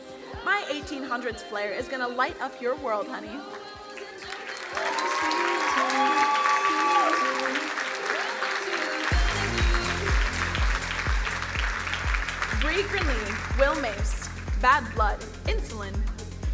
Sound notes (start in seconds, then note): 4.4 crowd cheering drowns out singer